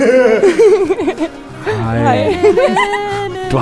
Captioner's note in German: Lachen